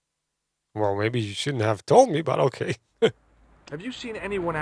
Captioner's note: laughs